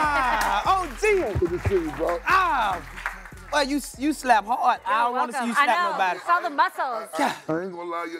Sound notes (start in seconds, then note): 1.5 cheers and applause